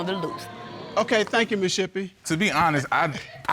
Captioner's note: audience gasps